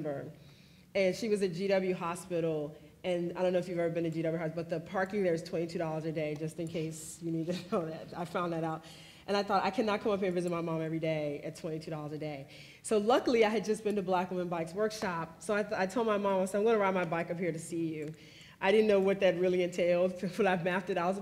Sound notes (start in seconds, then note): 8.2 laughs